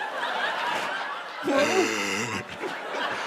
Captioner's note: heavy breathing